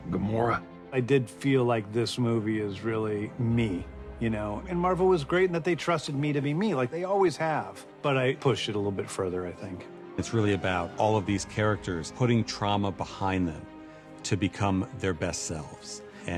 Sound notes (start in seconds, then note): none